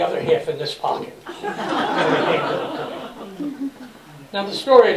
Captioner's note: laughter